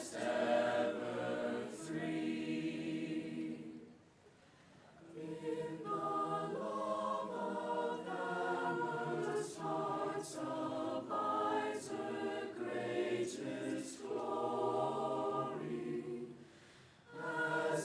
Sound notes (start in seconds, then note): none